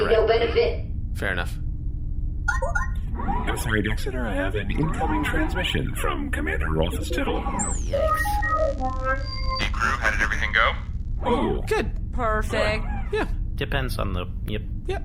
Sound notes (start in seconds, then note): 3.9 incoming-transmission noise